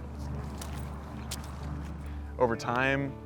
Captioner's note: splashing water